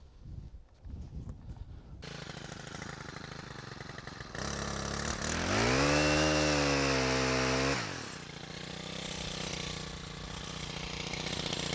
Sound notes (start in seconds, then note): 1.5 chain saw motor